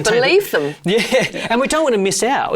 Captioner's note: laughing